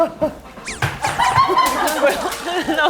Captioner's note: swoosh